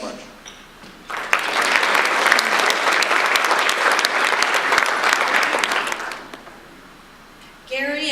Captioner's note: audience applause